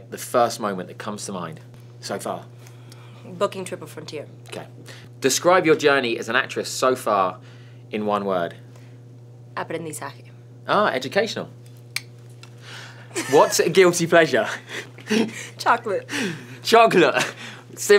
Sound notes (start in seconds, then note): 9.6 speaks in foreign language; 14.6 laughs